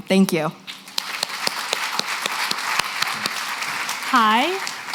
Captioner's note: applause